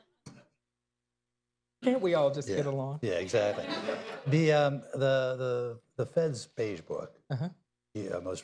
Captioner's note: laughter